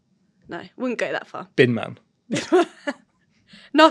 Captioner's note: chuckles